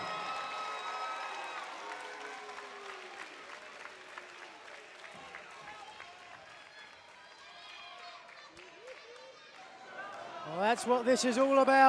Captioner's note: crowd cheering